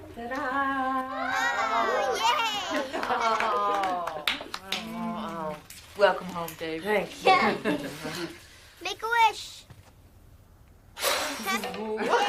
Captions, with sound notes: Ta-da! Oh, yay! (Jason and Abby clapping) Welcome home, baby. Thank you. Make a wish!